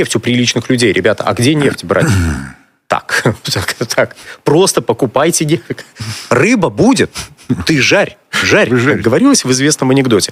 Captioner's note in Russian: откашливается